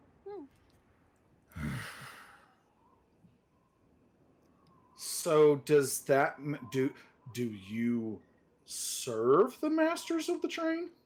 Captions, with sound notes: (Deborah grunts) So, do you serve the masters of the train?